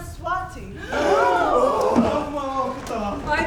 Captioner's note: the Players gasp; speaking in a foreign language